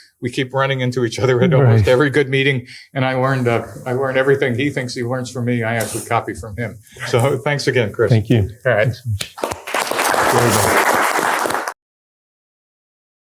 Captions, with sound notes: We keep running into each other at almost every good meeting. And I learned everything he thinks he learns from me. I actually copy from him. So thanks again, Chris. Thank you. All right. [APPLAUSE]